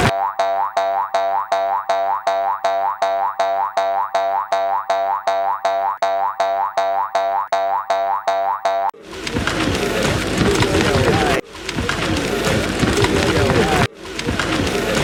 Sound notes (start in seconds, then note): 2.5 boing-Boing Sound; 2.5 sound of people and animals running